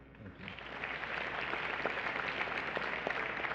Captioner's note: applause